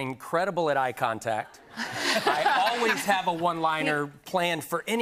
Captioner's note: laughter